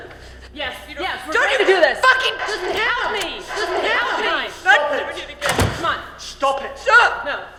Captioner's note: Elizabeth and Victoria yelling at each other